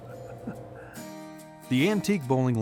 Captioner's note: laughs